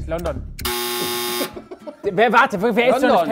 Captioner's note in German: Lachen